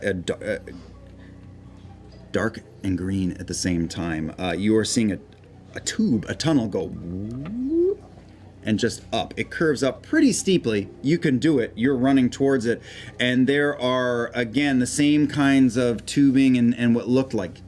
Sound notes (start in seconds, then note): 6.9 whoop